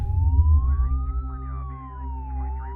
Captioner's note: siren blaring